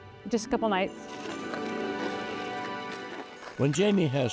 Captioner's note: skate blades carving ice